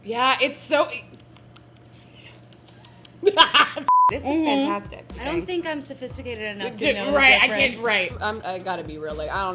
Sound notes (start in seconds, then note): 1.4 laughs; 2.2 beep